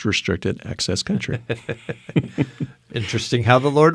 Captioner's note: laughing